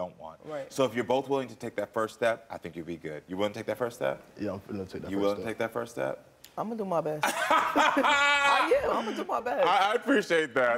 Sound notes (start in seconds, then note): 7.3 Karamo laughs; 7.3 laughs